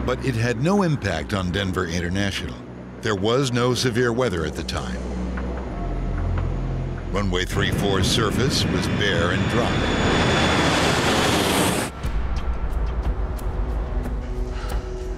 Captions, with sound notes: But it had no impact on Denver International. There was no severe weather at the time. Runway 34's surface was bare and dry. (engine whooshing) (tense music)